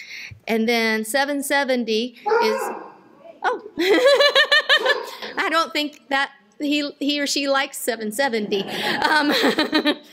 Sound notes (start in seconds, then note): 2.2 dog barks in audience; 8.8 laughter